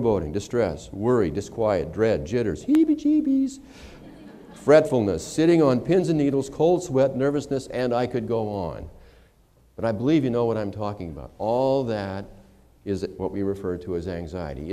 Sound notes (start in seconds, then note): 3.8 laughter